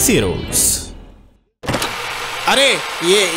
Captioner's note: slams door open